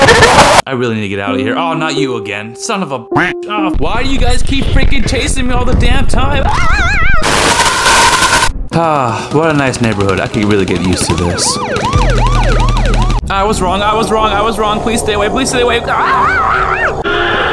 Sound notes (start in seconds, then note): 6.5 screaming like a dying mop bucket; 11.6 shooting in the distance and a cop siren; 15.9 Screaming like Barack when he found out Michelle was a dude